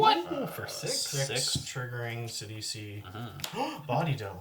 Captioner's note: gasp